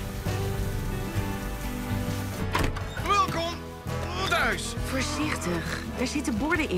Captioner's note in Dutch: deur opent